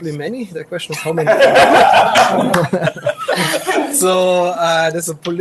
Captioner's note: audience laughs